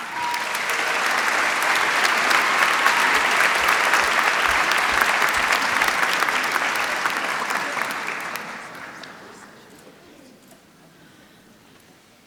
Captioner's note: applause